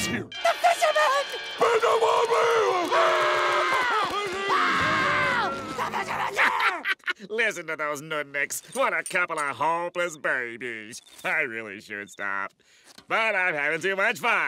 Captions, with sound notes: The Fisherman?! [speaking gibberish] [screaming] The Fisherman's here! [Squidward laughing] Listen to those nudniks. What a couple of hopeless babies. I really should stop, but I'm having too much fun.